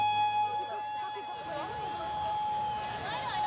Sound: siren

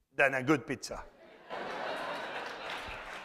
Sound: laughter; applause

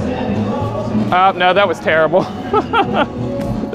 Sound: laughs

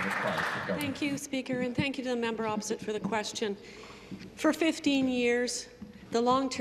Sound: some Applause

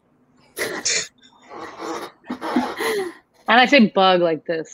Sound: all laugh

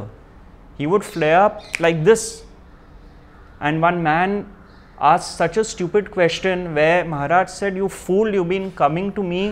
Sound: snaps fingers

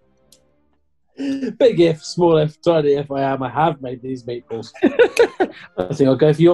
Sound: laughing

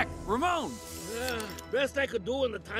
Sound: aerosol hissing

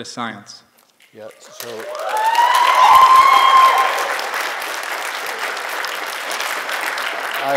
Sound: applause

